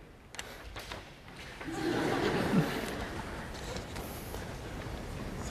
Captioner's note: laughter